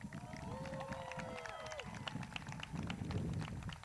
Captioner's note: crowd claps